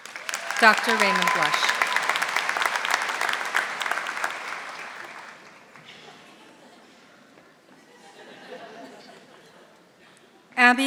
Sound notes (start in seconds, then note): 2.6 audience applauding; 8.5 audience laughing softly